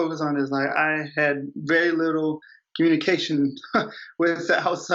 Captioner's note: chuckles